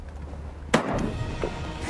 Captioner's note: gun shot